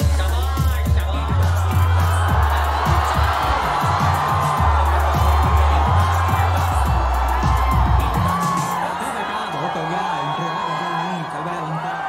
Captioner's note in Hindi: चियरिंग